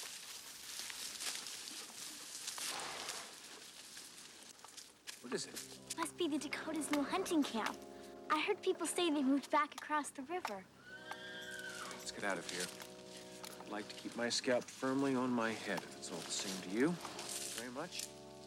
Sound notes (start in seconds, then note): 2.6 horse snorts